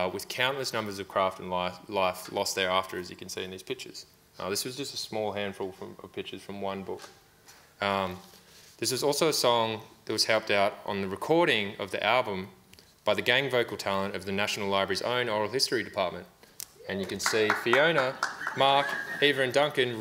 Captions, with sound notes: with countless numbers of craft and life lost thereafter as you can see in these pictures. This was just a small handful of pictures from one book. This was also a song that was helped out on the recording of the album by the gang vocal talent of the National Library's own Oral History Department. (audience applauds) And you can see Fiona, Mark, Eva and Duncan